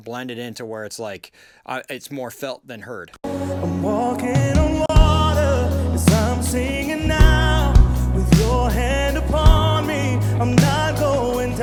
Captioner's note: vocal with slap delay